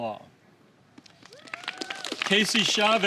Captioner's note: applause